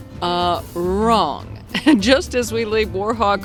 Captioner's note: chuckles